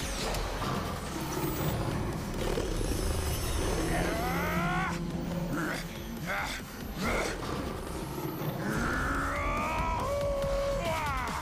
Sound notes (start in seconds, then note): 1.2 roaring; 3.4 grunting; 8.3 roaring, howling